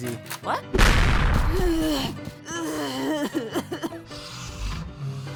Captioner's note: pained wheezing